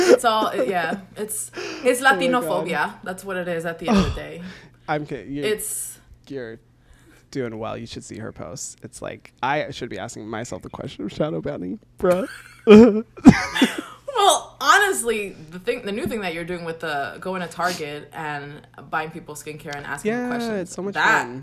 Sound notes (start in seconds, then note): 12.1 both laugh